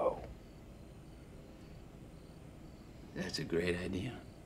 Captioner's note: crickets chirping